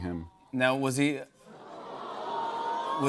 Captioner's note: audience awws